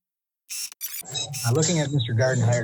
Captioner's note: tape restarts